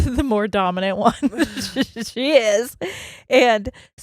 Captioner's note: laughs quickly